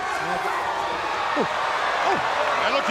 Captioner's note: crowd cheering